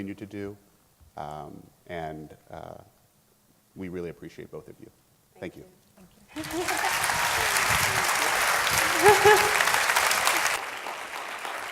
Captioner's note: applause